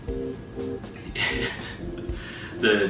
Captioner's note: giggle